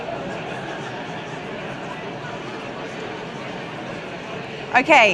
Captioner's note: indistinct chatter continues